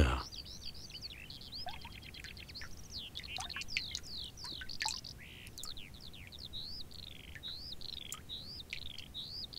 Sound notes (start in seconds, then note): 3.1 water drips; 5.7 birds twitter